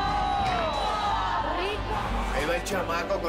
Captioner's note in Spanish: Gritos